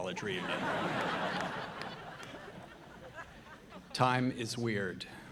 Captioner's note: audience laughing